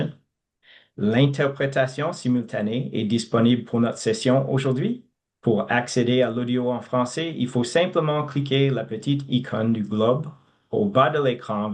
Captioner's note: speaking French